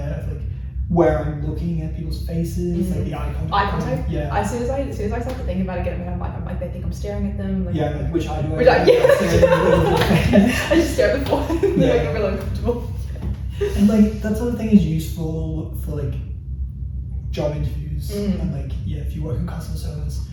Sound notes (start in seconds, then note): 8.6 laughs